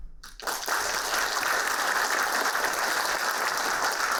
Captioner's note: applauding